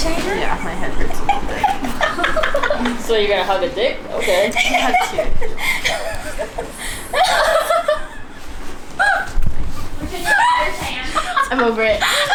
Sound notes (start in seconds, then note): 6.7 laughing